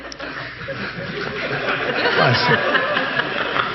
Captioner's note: audience laughing